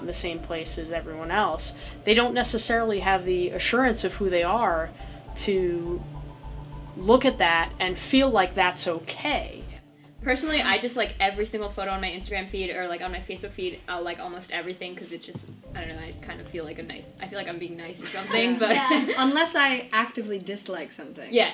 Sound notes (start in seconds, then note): 18.0 laughs